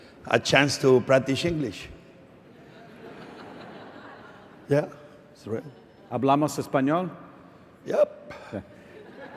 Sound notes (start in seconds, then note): 2.6 laughter; 6.8 speaking spanish